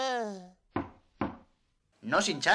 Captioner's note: mistreats door again